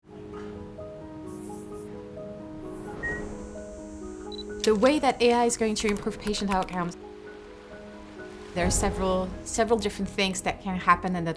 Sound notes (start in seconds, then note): 0.2 gentle music; 2.7 machine beeping